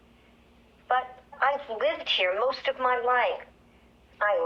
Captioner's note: on voice record